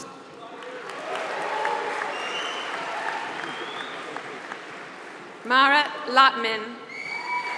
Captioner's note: applause; applause